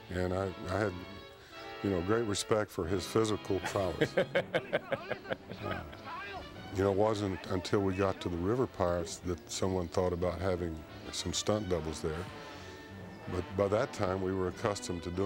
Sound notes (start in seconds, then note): 3.4 maltin chuckling